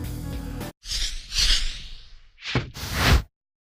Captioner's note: whooshing